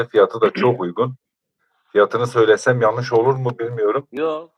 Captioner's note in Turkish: boğazını temizler